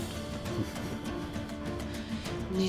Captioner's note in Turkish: Gülme sesleri